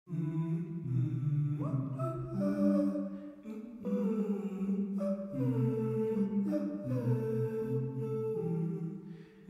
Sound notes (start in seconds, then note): 0.3 humming; 1.9 soft vocalizing